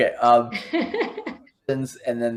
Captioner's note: laughs